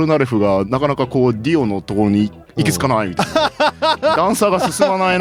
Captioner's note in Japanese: 笑い